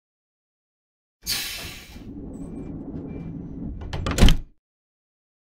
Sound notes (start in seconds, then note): 1.3 sound of door